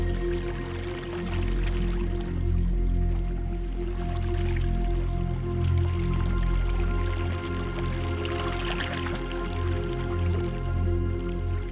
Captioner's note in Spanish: Sonido del agua